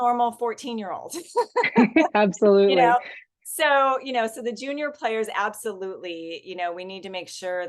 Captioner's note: laughs